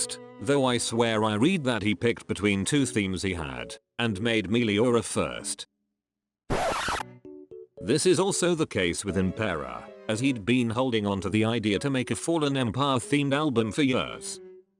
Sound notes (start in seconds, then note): 6.5 record scratch